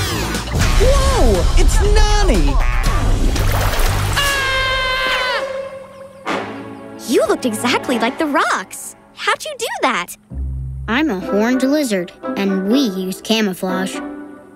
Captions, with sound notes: Whoa, it's Nonny. [screaming] You looked exactly like the rocks. How'd you do that? I'm a horned lizard and we use camouflage.